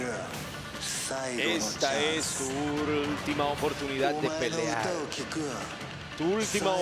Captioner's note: laugh